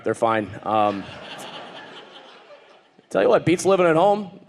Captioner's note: audience laughing